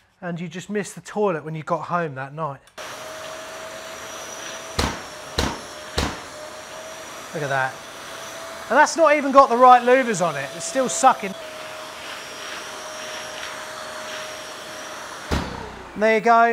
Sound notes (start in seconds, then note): 2.9 wet vac roars; 5.9 wet vac booms; 12.2 wet vac roars; 15.3 wet vac booms